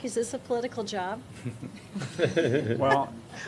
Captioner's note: laughter